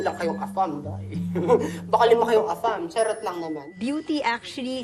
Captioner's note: chuckles